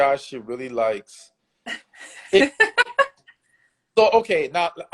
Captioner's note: laughs